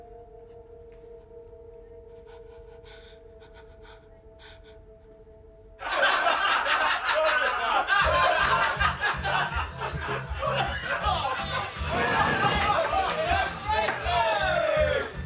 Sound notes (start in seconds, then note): 5.9 laughing; 8.4 upbeat music